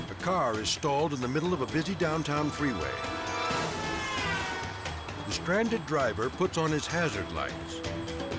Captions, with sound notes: A car is stalled in the middle of a busy downtown freeway. (car hooter hooting) The stranded driver puts on his hazard lights,